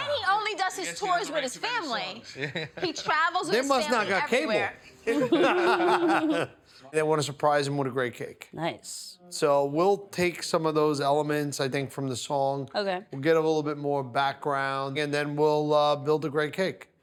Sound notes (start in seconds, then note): 5.0 all laughing